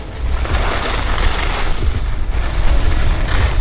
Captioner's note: skis scrape